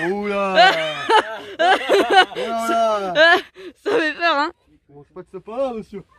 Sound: laughs

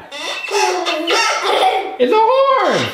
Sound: horn honking

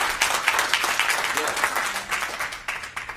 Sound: applause

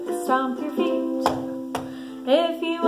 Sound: feet stomping

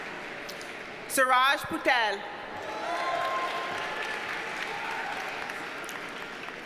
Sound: audience cheers and applauds

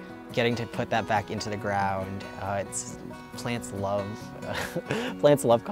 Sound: chuckling

